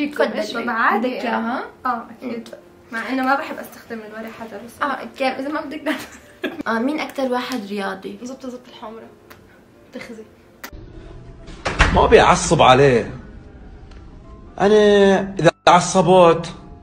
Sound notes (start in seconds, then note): 5.9 chuckles